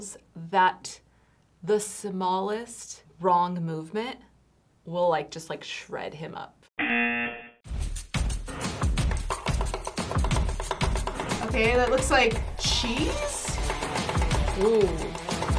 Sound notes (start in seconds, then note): 6.6 upbeat music; 6.8 buzzer